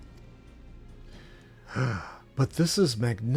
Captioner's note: sigh